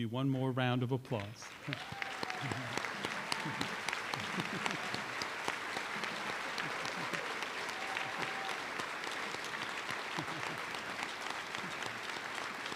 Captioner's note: applause